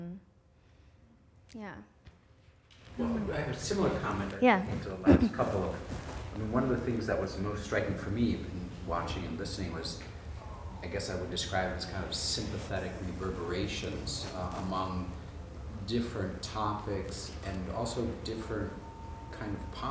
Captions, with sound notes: Yeah. - [Voiceover] I have a similar comment relating to the last couple. One of the things that was most striking for me watching and listening was I guess I would describe as sympathetic reverberations among different topics and also different postures